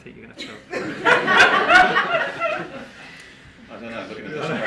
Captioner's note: group laughing